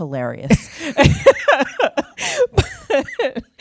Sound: laughter

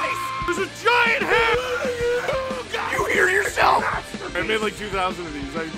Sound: Harry potter screaming; screaming

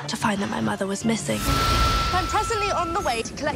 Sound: train whistle blowing

